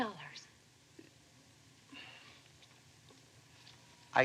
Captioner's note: sighs